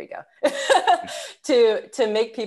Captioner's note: laughs